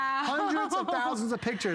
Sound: laughter

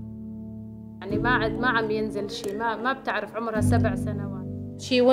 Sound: woman speaking in Arabic

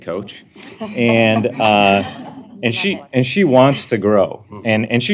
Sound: laughter

